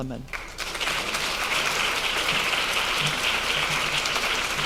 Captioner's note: audience clapping